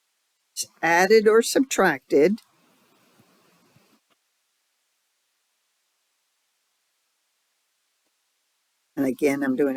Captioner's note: 6-second silence